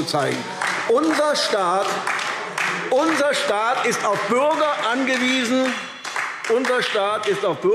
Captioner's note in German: Beifall AfD – Zurufe SPD – Glockenzeichen